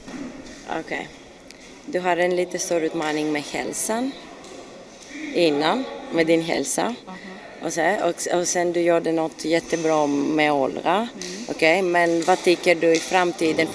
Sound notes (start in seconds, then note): 1.7 foreign language 04:32.14; 11.5 foreign language 04:42.13